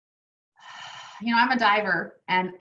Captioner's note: exhales